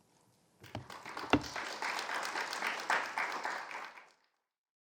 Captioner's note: audience applauding